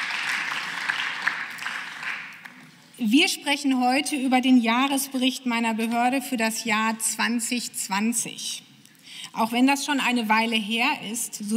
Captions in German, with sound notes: (Beifall) Wir sprechen heute über den Jahresbericht meiner Behörde für das Jahr 2020. Auch wenn das schon eine Weile her ist,